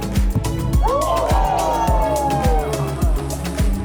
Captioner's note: crowd cheers